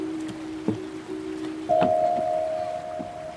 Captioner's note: calm piano music; steps